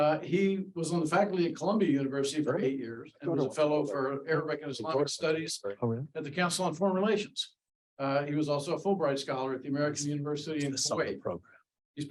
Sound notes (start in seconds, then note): none